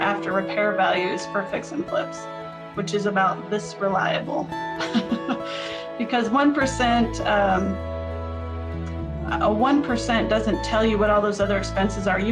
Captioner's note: laughs